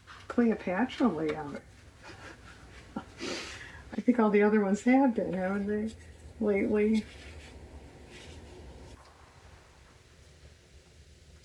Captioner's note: laughs